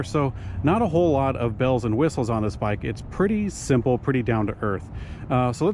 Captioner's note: none